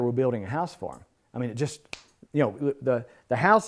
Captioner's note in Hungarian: ujjcsettintés